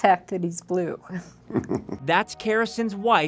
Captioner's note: laughs